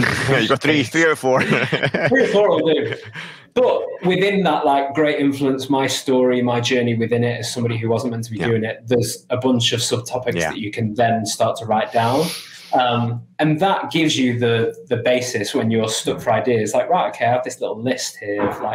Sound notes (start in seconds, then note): 1.6 laughing